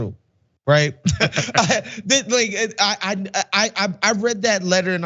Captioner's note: laugh